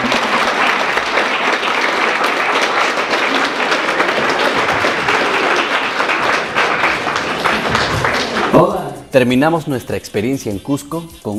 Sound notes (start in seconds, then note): 0.0 people clapping